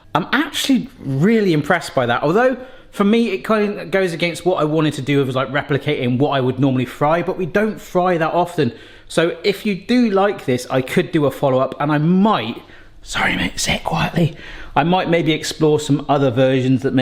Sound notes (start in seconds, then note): 13.2 whispering